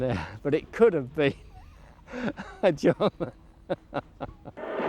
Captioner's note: chuckling